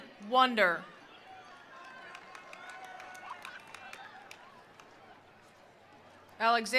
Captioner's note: attendees cheering; attendees applauding